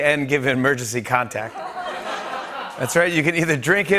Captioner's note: laughter